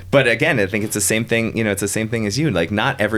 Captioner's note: laughing